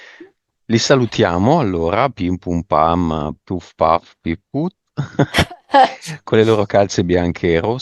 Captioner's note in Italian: risate